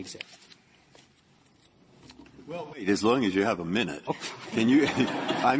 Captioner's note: laughter